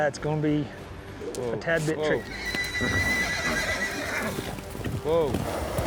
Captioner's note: horse whinnies